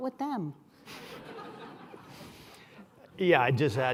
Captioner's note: laughter